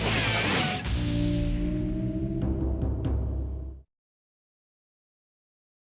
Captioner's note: dramatic drum music; logo whooshing